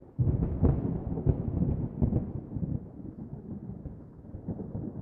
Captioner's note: thunder